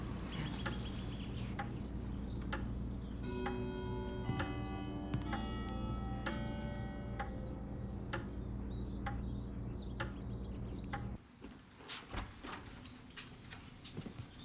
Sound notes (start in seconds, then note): 2.6 clock chimes; 12.0 door opens